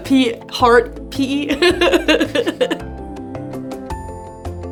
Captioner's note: laughs